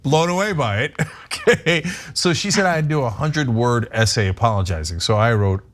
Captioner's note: laugh